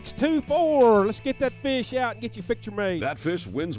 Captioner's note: voiceover